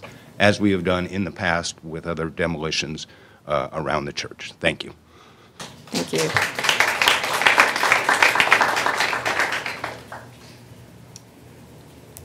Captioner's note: applause